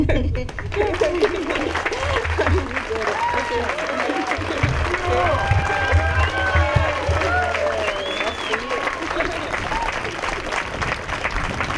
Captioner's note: applause